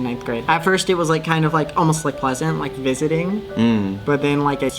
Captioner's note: makes noise of acknowledgement